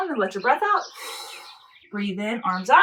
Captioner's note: exhaling